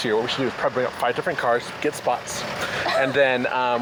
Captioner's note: laughs